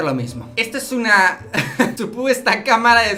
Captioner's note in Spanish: risas